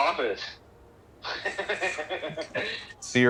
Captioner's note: laughs